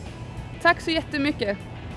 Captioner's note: speaking in foreign language